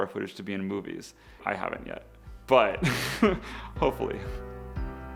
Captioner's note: laughs